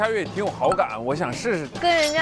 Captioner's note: says it bluntly